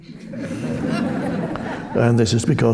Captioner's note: audience chuckling